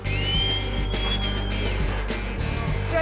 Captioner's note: whistling